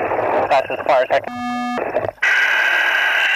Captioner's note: drowned out by beeping